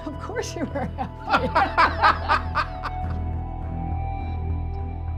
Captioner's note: laughter